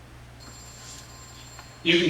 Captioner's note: phone ringing